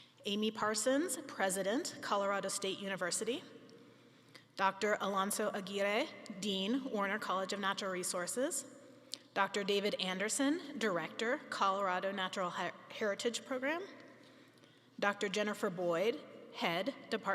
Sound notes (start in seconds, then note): none